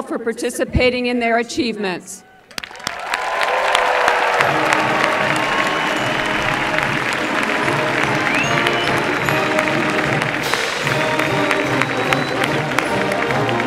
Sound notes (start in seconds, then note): 2.3 applause